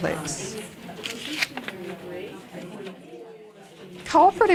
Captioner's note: audience chatter